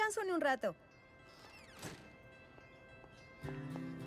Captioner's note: door closes